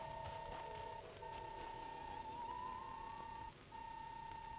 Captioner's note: robot beeping